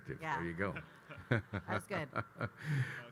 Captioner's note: Grant and Kyle laughing